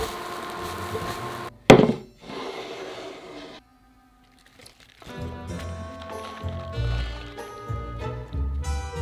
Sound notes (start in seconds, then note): 2.1 bowl sliding